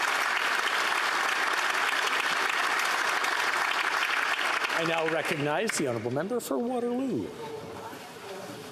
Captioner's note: applause